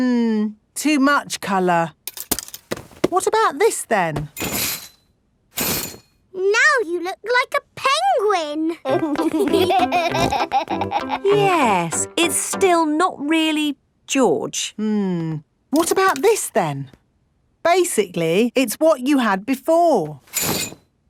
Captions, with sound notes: Mmm. Too much color. What about this then? Now you look like a penguin! (LAUGHING) Yes, it's still not really George. Hmm, what about this then? Basically it's what you had before.